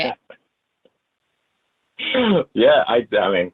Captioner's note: laughs